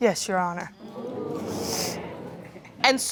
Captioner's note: audience groans